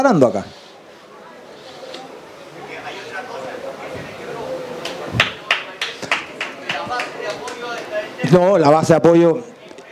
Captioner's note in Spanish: Público animando